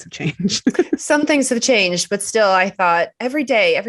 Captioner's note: chuckles